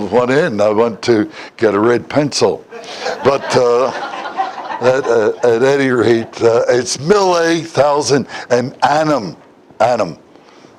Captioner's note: Смех